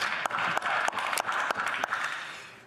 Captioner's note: applause